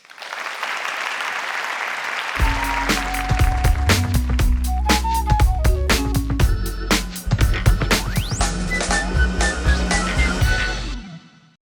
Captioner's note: applause